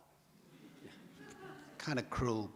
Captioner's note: audience laughs